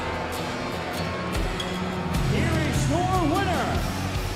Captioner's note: crowd cheering